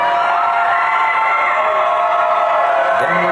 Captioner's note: audience cheering